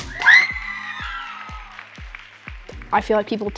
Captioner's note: group cheering